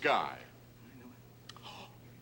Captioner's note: gasps